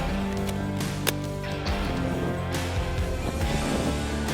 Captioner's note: magazine snaps